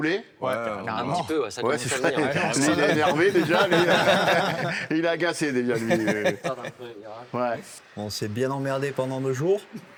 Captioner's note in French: rires